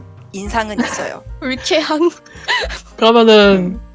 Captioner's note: laugh